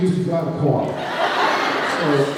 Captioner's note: laughs